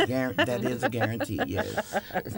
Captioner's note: laughter